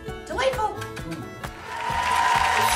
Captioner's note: kissing sounds; applauding